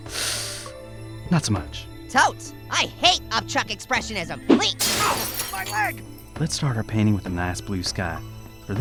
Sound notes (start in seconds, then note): 4.8 glass breaking; 5.4 voiceover